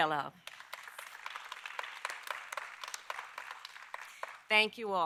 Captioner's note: applause